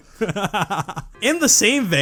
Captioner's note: laughs